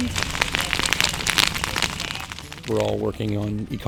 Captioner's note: fire crackles